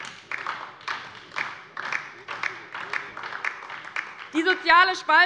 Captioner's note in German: Beifall DIE LINKE